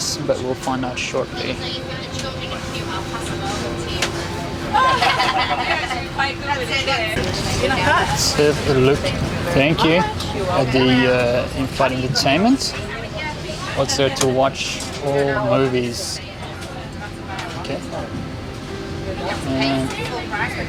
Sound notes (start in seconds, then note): 2.8 background chatting; 4.5 laughing